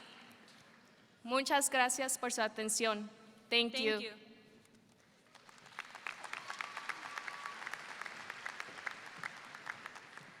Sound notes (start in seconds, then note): 1.5 speaking in foreign language; 5.2 audience applauds